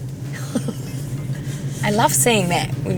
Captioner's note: laughter